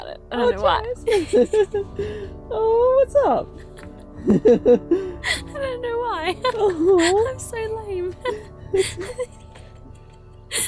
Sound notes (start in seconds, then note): 3.6 laughing; 6.3 laughs; 8.7 laughs